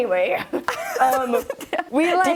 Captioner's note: laughing